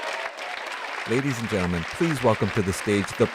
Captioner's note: applause